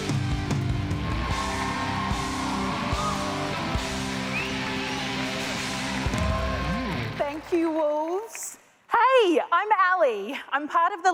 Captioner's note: applause